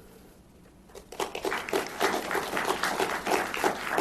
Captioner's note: applause